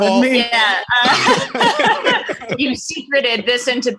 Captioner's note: all laughing